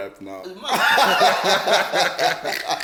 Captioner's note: everybody laughs